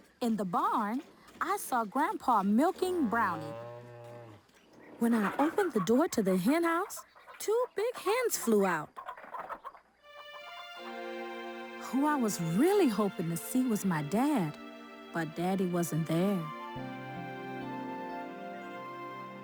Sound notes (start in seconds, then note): 3.0 cow moos; 8.3 chickens clucking; 10.4 calm music; 17.3 calm music continues